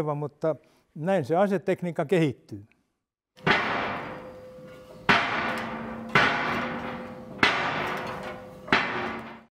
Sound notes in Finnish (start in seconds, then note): 3.4 Kolahdusääniä